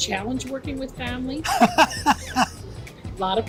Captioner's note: laughs